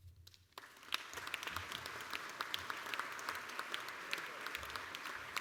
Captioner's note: applause